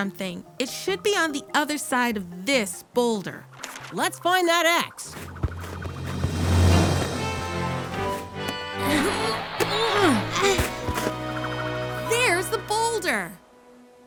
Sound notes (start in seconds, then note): 5.2 exciting music; 5.4 strained groaning